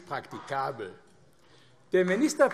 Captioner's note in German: Beifall AfD